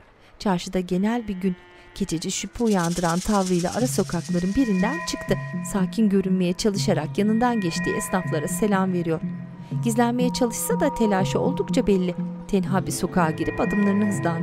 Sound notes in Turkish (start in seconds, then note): 1.0 Hayvan sesleri; 4.1 Müzik - Gerilim